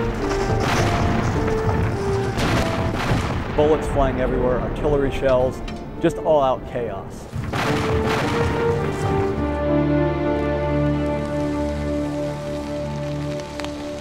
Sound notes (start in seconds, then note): 7.4 weapons firing; 10.0 rain pattering